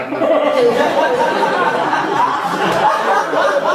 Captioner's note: audience laughing